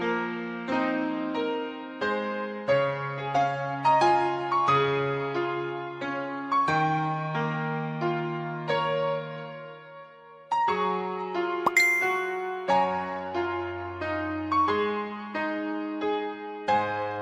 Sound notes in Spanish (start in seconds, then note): 11.6 Tono de mensaje; 11.6 Música Instrumental - Piano